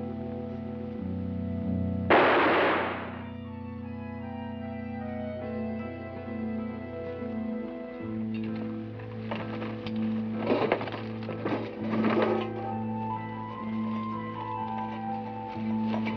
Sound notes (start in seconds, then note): 2.1 gunshot bangs; 10.2 somber music